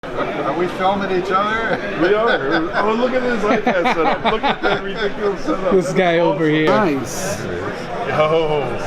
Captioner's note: with an NYC accent